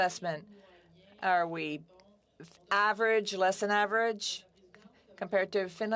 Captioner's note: speaking French